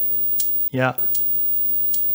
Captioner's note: clicking